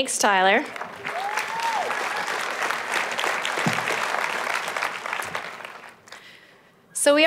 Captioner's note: applause